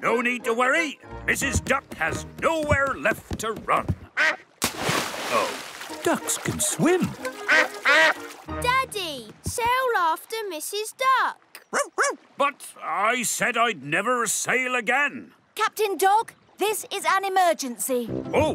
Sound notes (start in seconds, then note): 4.1 quacks; 7.2 quacking; 11.7 barks